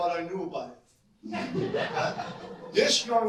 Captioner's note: audience laugh